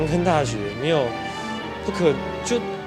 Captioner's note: inhale